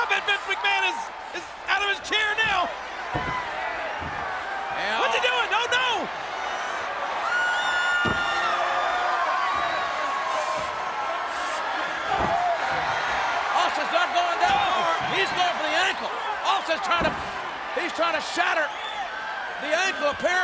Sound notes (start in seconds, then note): 7.3 audience cheers; 12.8 audience cheers